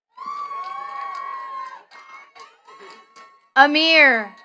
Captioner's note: attendees cheering and clapping